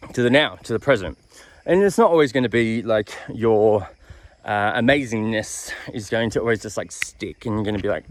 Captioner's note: click